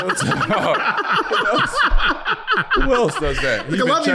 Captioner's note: group laughing